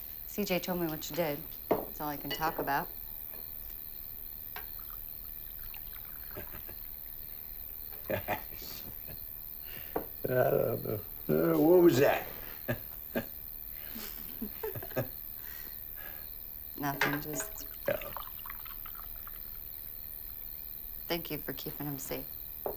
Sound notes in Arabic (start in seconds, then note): 7.9 يضحك